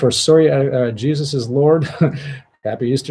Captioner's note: laughs